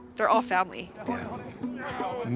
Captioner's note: crowd chattering